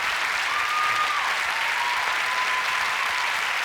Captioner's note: applause